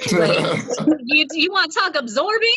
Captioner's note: all laughs